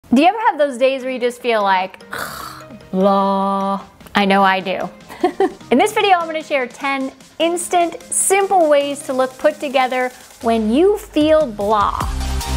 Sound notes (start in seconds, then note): 5.0 laughs; 12.3 bright music